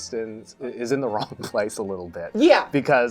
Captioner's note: chuckling